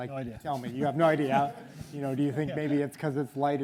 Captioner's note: audience laughs